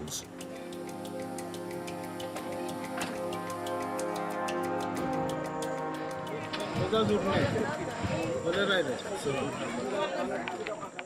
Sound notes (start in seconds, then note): 0.1 dramatic music; 6.1 speaking in foreign